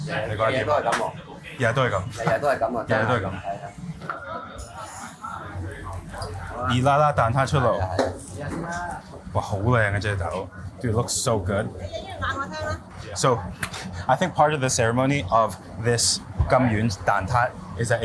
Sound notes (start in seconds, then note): 0.1 chef and food reviewer speak in foreign language; 6.7 food reviewer and chef speak in foreign language; 8.3 person speaks in foreign language; 9.4 food reviewer speaks in foreign language; 11.8 person speaks in foreign language; 15.9 speaks in foreign language